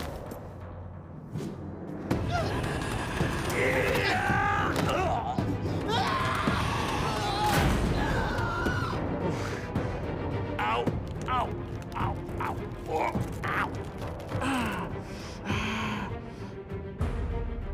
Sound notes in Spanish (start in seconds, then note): 2.2 quejidos; 5.5 Hermes grita; 11.1 se queja